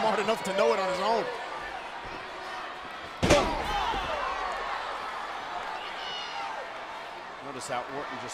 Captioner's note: applause